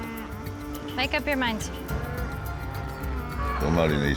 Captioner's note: cows mooing